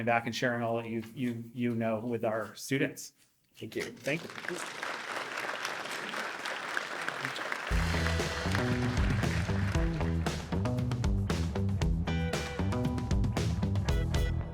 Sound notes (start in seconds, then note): 4.0 audience applauding; 7.6 upbeat music